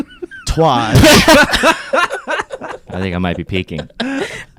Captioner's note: laughing